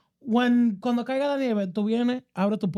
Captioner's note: speaking In Foreign Language